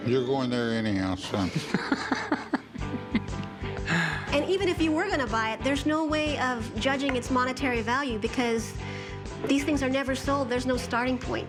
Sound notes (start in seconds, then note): 1.4 laughter